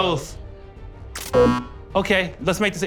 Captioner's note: buzzer